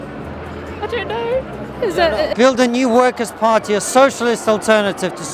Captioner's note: laughs